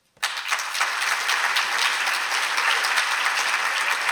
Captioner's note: applause